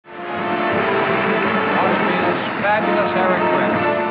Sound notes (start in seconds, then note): 0.0 upbeat music; 0.1 audience applauding